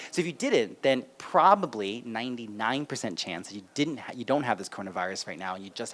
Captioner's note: none